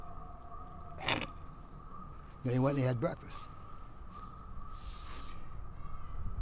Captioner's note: coughs